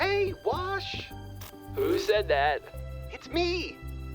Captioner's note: glitching